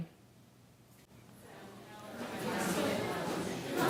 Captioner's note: chattering